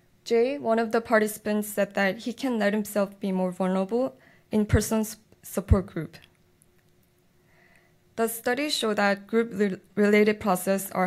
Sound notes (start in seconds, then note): none